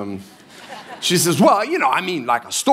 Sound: congregation laughing

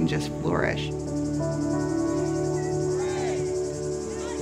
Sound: jovial camp sounds

